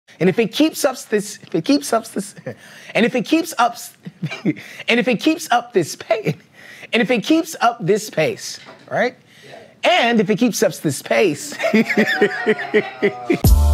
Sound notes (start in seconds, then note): 4.0 chuckles; 11.5 laughter